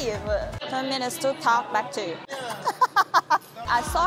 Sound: laughing

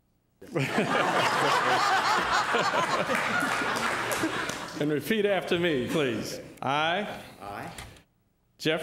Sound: laughter

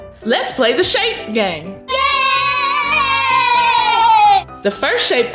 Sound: children cheer

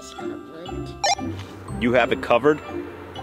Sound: walkie talkie beeps

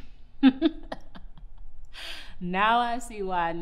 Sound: laughs

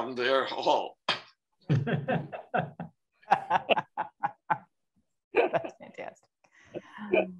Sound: laughter

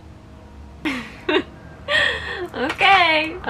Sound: laughs

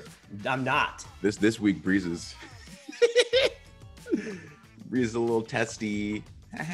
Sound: laugh

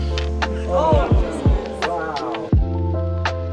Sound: collective gasp

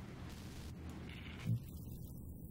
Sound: electronic crackling

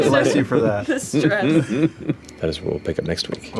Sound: laughing; laughter

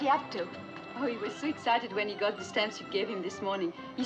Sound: none

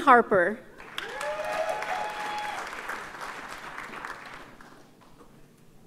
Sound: audience cheers and applauds

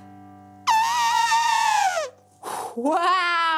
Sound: trumpeting

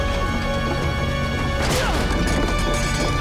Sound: grunting

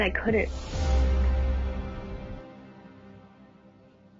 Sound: whooshing

